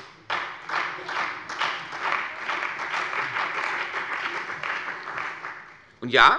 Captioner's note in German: Beifall bei der CDU und dem BÜNDNIS 90/DIE GRÜNEN